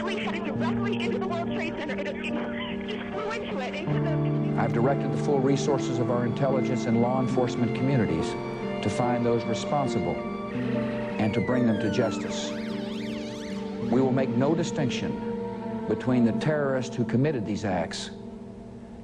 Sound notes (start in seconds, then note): 12.9 police sirens wailing